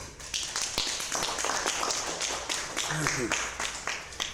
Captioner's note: audience applauding